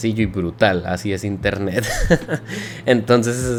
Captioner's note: laughs.. in pain lol